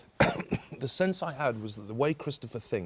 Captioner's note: coughs